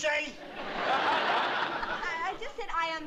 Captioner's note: laughter